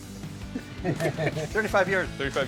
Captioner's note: chuckling